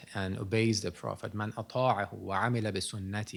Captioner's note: non-english speech